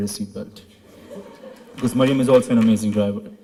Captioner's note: laughter